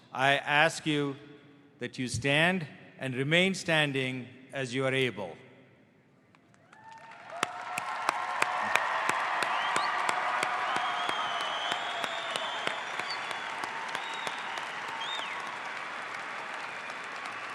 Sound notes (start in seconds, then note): 7.2 audience applauds